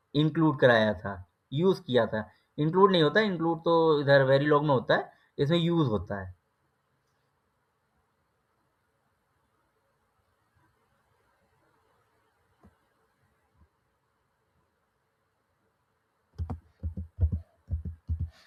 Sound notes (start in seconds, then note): 10.8 clk